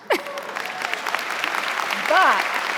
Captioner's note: audience applauding; laughs